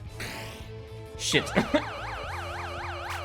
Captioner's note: laughs